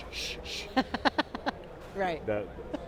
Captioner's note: laughing